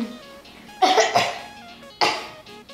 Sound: coughing

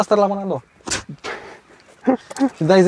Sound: laughing

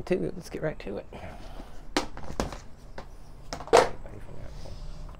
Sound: container opening

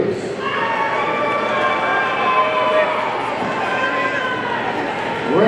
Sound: audience cheering

